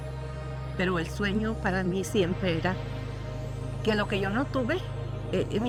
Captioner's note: speaking in Spanish